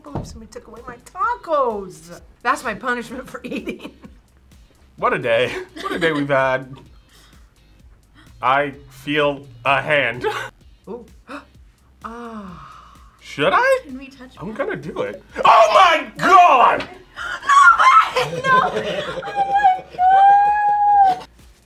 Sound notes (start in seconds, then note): 12.0 gasps; 17.9 chuckles